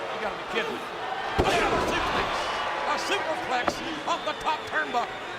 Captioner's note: applause